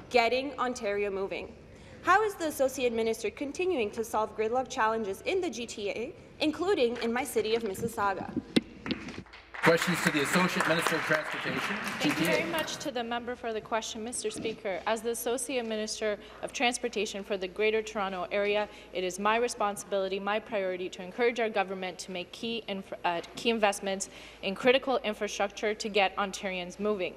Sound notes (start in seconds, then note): 11.9 applause